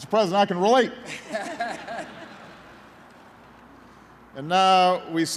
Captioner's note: laughter